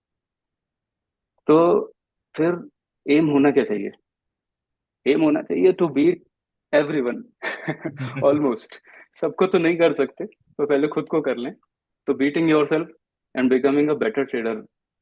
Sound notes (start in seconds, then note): 7.4 laughs